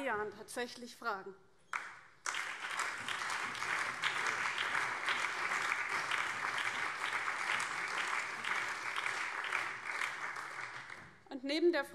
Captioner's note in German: Beifall BÜNDNIS 90/DIE GRÜNEN, CDU, SPD und Freie Demokraten